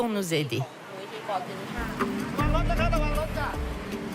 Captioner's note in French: Audio parlé en langue étrangère